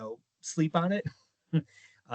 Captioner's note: chuckling